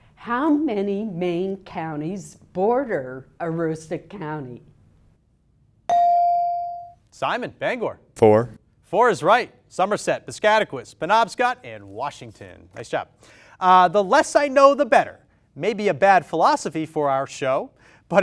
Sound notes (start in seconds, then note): 5.9 ding